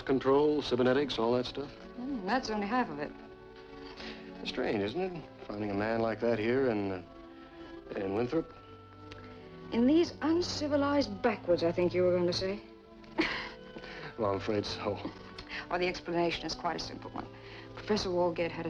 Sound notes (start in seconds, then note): 13.1 risos